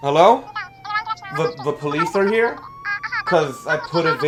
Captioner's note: muffled phone chatter; chatter continues